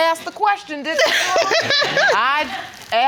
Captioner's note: giggles